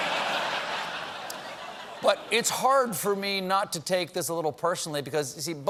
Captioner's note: laughter